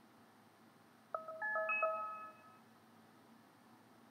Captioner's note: Cell phone beeps